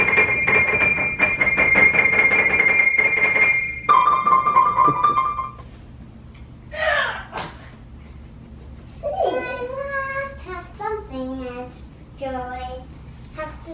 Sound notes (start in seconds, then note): 4.8 chuckles; 6.9 grunts